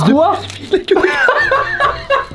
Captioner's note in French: rires